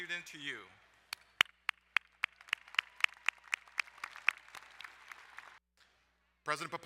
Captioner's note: crowd cheering and applauding